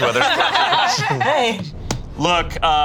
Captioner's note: group laughs